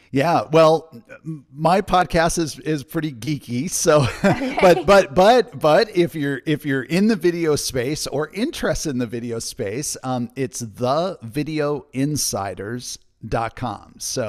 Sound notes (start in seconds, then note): 4.0 laughs